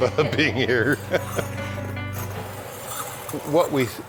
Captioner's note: laughs